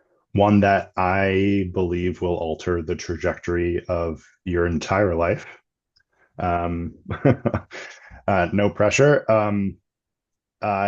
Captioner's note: laughing